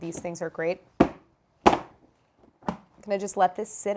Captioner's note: lid banging